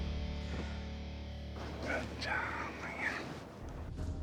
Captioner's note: whispers